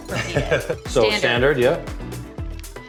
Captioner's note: laughs